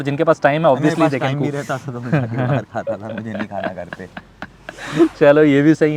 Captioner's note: chuckles